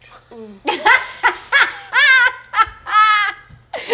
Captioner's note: laughing